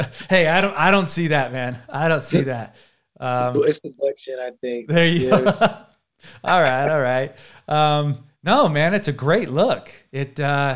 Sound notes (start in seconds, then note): 0.0 laughing; 4.1 laughs